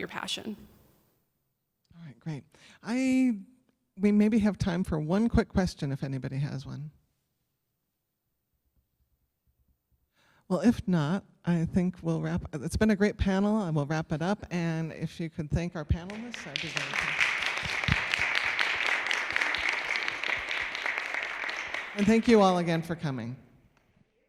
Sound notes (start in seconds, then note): 19.3 applause